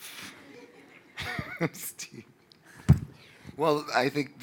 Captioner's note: audience laughing